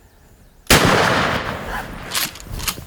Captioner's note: gunshot; guns cocking